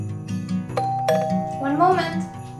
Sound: door bell

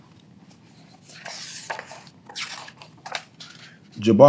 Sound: pages rustling

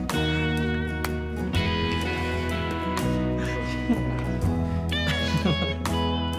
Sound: laughter

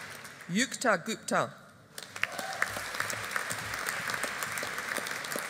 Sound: audience applauding

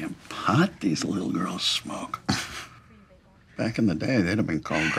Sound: chuckles

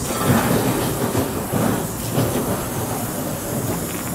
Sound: embers sizzling

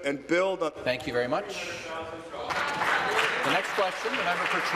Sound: applause

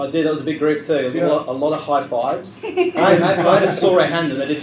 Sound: laughter

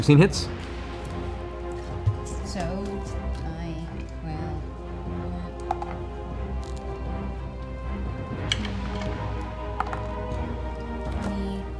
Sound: counts quietly

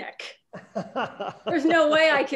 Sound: laughing

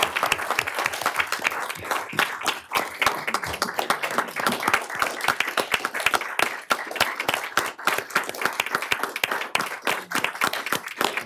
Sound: applause

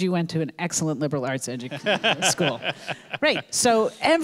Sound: laughing

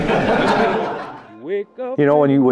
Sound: laughter

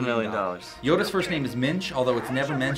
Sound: voice-over

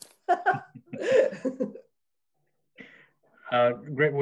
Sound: laughing

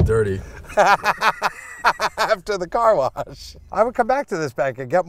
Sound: laughs

